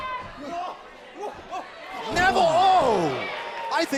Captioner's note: crowd chatter